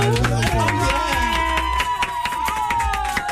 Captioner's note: crowd cheering